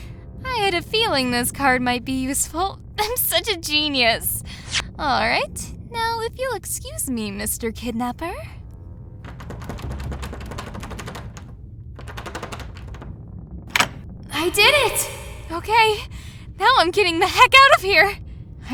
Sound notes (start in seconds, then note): 8.9 lock fumbling…; 13.7 click!